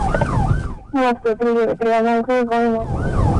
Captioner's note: radio chatter